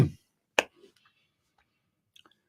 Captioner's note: speaking in Swedish